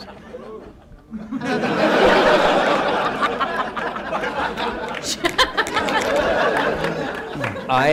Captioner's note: laughter